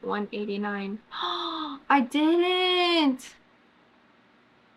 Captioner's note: gasps